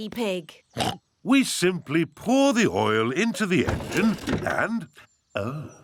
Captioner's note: oinks